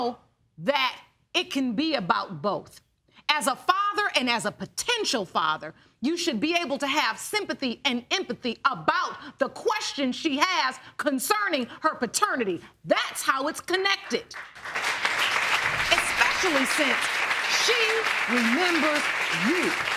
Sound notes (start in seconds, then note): 14.3 audience clapping